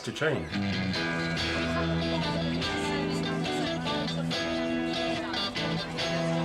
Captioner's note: indistinct chatter; energizing rock music